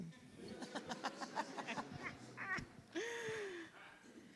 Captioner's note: audience laughs